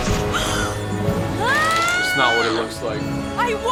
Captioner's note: yells out of it